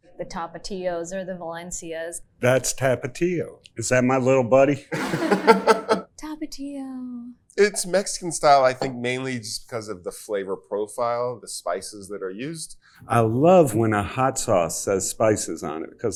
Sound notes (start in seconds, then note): 4.9 chuckles; 5.4 bottle scrapes